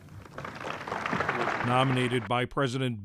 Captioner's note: applause